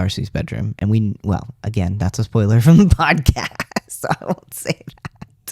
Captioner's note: laugh